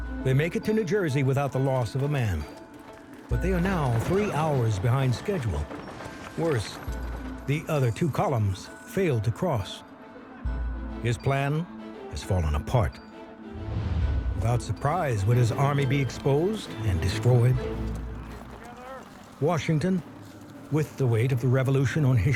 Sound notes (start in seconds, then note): 19.0 men yelling